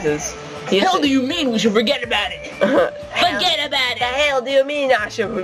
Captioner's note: D!Fuyuhiko, deep voice